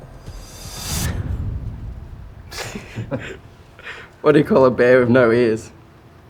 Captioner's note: giggling